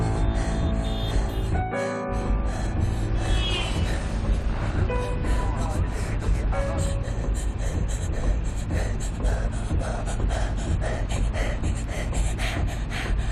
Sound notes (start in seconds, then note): 0.1 car honking; 1.0 panting; 8.2 panting harder